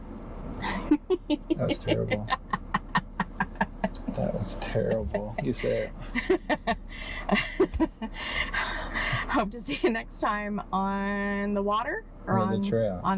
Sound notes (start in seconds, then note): 0.2 laughing; 2.7 laughing continues